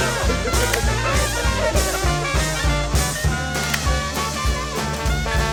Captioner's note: guests laughing; camera shutter clicking